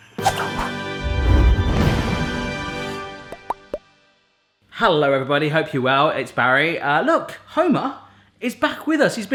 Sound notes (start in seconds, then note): 0.8 triumphant orchestral music; 3.3 bubbles popping